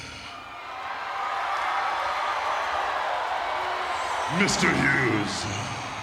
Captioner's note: applause